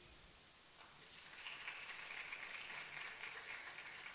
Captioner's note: applause